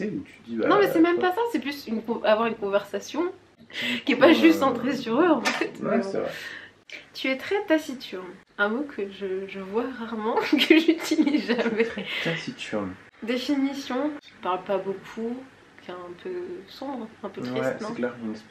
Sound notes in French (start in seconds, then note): 10.4 rires